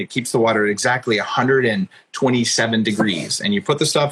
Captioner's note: laughs